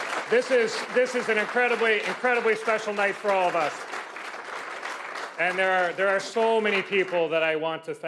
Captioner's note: cheers and Applause